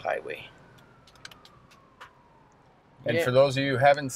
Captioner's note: sirens blaring